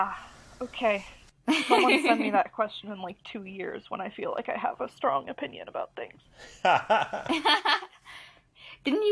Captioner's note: laugh